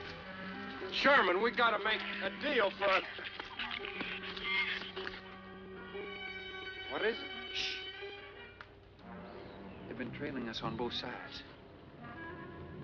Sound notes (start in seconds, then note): 2.9 shrews squeaking